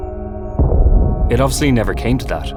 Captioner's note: nuclear bomb booming